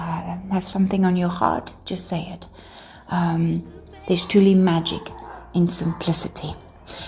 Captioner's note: dogs barking